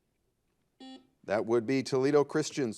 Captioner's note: buzzer